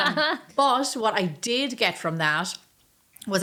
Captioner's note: laughing